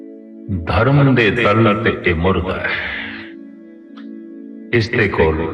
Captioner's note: sound of a sigh